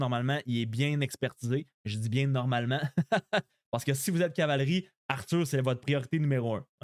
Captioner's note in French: rires